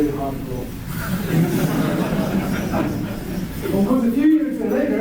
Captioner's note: laughter